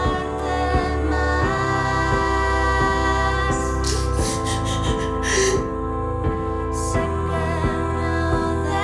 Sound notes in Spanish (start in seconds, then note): 3.7 Sollozos